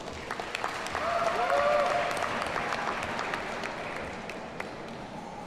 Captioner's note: audience cheers and applauds